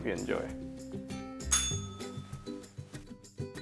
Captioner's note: bell rings